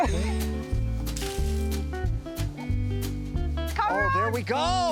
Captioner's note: laughs; leaves rustle